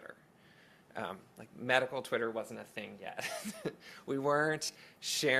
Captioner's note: laughs